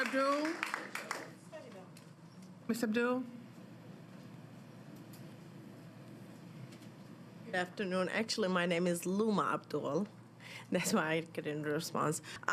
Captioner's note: applause